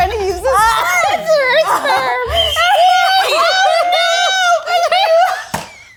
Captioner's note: all laughing